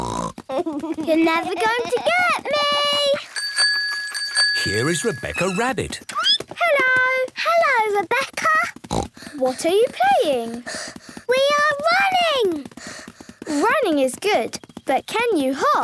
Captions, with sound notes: You're never gonna to get me! (bike bell) - Here is Rebecca Rabbit. - Hello! - Hello, Rebecca! (snort) - What are you playing? - We are running! - Running is good, but can you hop?